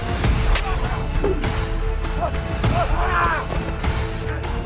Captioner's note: dramatic music; all moaning